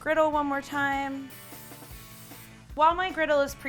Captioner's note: can spraying